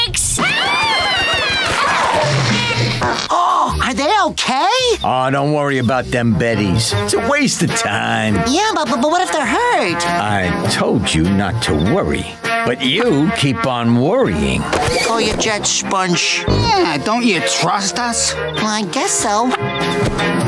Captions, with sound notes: [screaming] [gasps] Are they okay? Don't worry about them Bettys, it's a waste of time. Yeah, but what if they're hurt? I told you not to worry, but you keep on worrying. Cool your jets, sponge. Yeah, don't you trust us? I guess so.